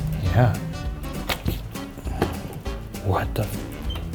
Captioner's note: device clicking